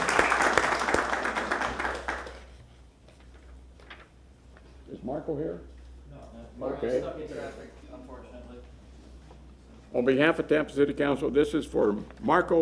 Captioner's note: applause